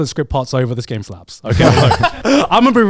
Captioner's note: group laughs